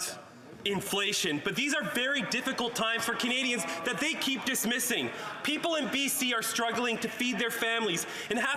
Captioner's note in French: voix de l'interprète